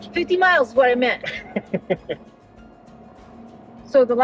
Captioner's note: laughing